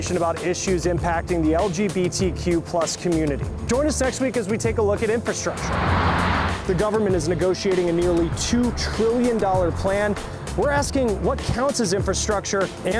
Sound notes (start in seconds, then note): 5.2 cars whooshing